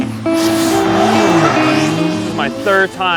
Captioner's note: engine revving